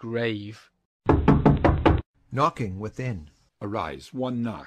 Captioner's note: knocking within